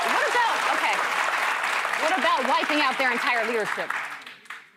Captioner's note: cheers and applause